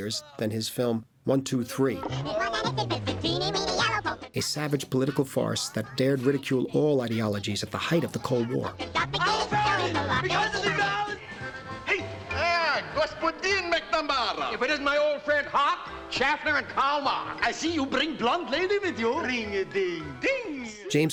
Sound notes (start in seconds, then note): 2.3 warped Sound; 9.0 shouting In German; 12.0 greeting In Russian